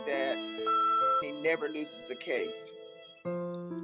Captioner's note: beep